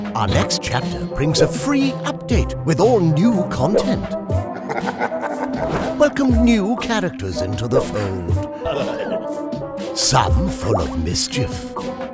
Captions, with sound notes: Our next chapter brings a free update, with all new content. (devil laughs) Welcome new characters into the fold. Some full of mischief,